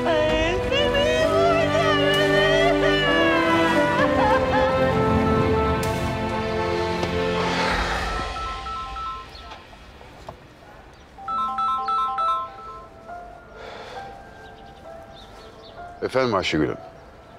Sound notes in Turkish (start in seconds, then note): 3.3 Gülay ağlıyor; 7.8 Telefon çalıyor